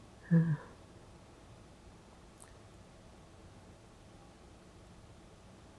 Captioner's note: pauses 10 seconds